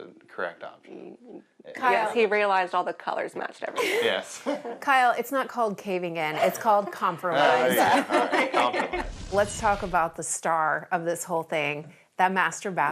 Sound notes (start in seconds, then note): 5.0 laughs; 7.5 laughs